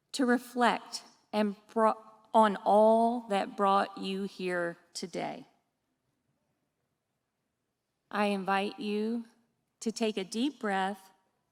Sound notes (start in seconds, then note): none